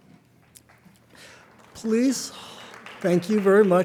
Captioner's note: light applause